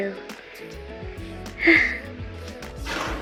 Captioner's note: happy sigh